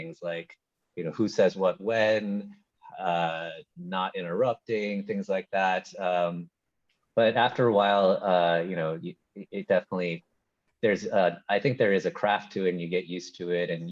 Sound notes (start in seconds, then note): none